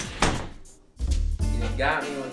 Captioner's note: door slamming; swing music